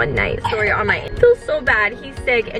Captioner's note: coughing